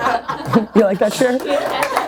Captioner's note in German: Voice-over; Lachen; Lacht